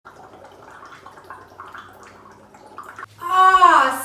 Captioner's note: water bubbling